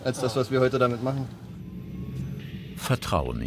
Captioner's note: rising whir